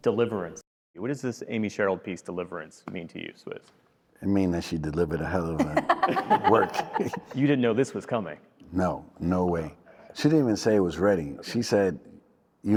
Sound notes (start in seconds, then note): 5.5 laughter